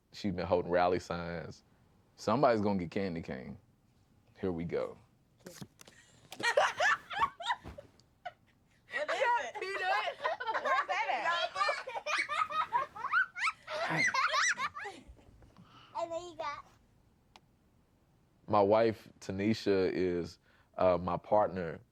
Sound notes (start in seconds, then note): 6.3 family members laughing